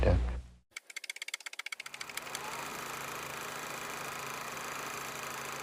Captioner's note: old movie reel clicking